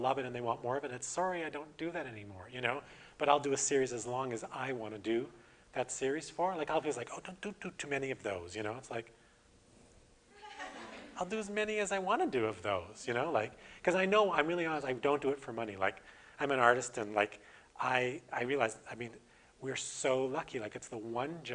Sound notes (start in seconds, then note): 10.4 audience: Laughter